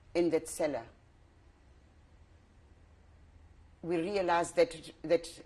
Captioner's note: pauses for 3 seconds